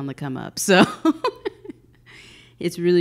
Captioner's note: laughs